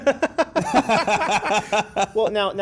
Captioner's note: both laugh